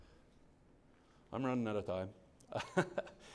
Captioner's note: laughs